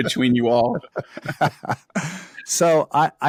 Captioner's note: laugh